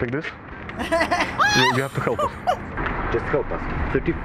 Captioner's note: laughing; laughs